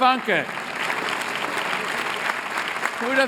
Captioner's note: applause